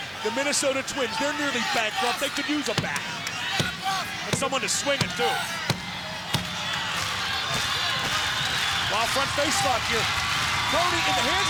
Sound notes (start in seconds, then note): 3.3 hand smacking; 5.7 crowd cheering